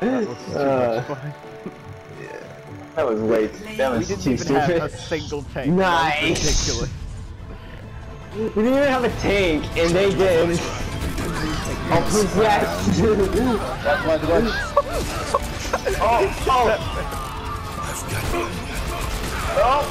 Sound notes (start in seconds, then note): 13.6 laughing and ohing